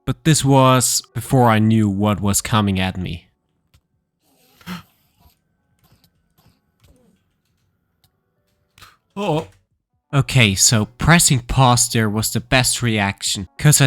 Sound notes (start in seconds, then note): 4.2 gasping; 4.3 enderman screeching